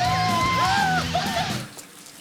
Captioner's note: cheering